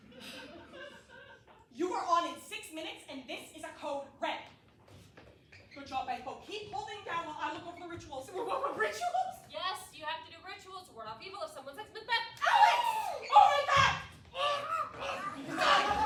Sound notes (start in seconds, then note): 12.5 everyone screams again